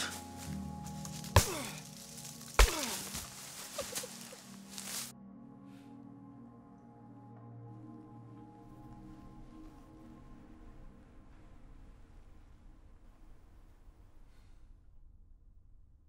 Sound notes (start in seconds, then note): 1.4 grunting; 2.2 thudding; 3.7 crying